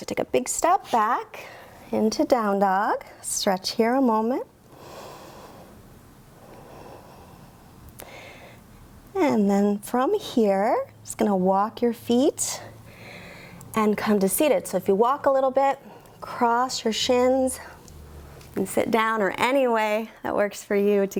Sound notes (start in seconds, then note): 4.7 inhales; 6.2 exhales